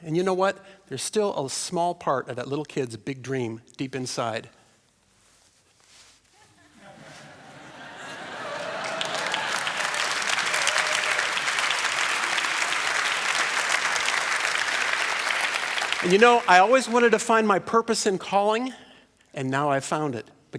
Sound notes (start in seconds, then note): 7.9 applause; 9.1 laughter